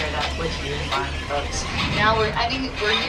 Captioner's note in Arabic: صوت في الهواء